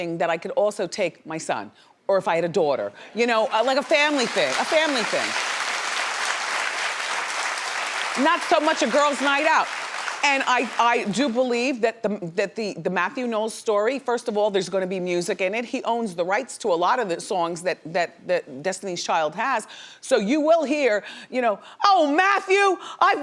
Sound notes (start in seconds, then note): 5.1 audience clapping